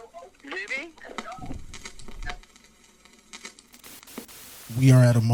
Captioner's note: static crackling